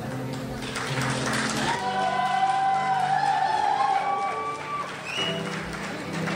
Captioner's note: crowd applauds and cheers